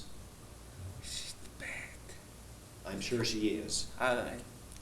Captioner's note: whispering